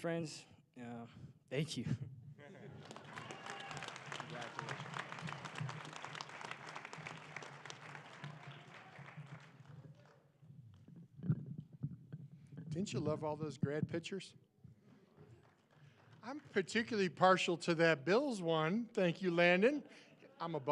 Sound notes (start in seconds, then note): 2.6 applause